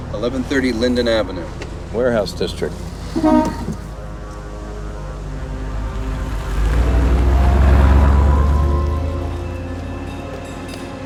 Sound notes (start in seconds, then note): 3.2 horn honking; 5.4 dramatic music